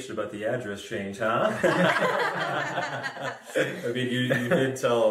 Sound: laughter

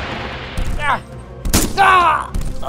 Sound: gun Shot; struggle Sounds

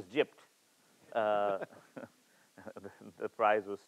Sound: chuckles

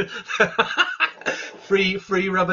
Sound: laughs

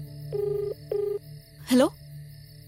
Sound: line ringing

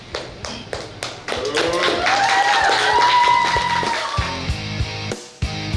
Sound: cheering & Clapping

